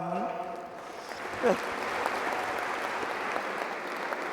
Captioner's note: applause